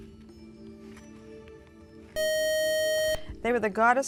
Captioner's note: buzzer